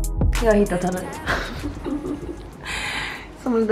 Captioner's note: laughter